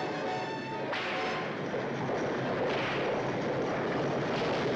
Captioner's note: driver whips horses